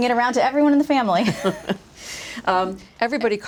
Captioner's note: laughs